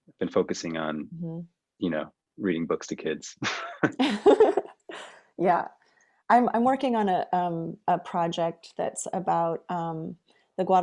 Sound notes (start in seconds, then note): 3.3 laughing